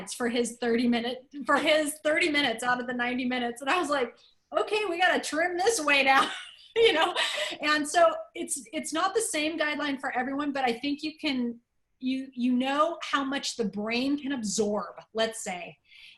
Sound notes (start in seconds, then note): 6.2 laughter